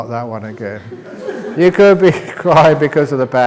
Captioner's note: laughter